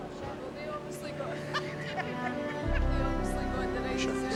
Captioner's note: woman laughs